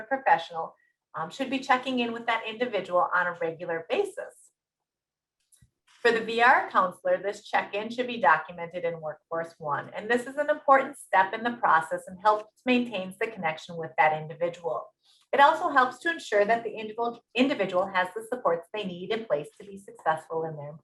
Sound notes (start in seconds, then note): 4.1 silence